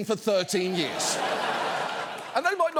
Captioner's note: studio audience laughing